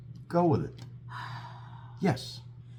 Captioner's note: exhale